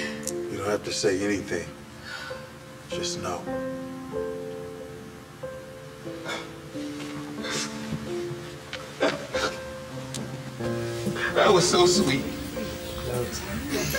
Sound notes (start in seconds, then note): 7.3 sniffling